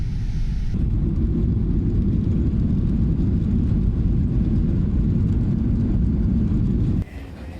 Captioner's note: sound plane landing